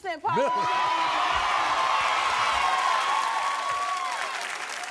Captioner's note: audience cheers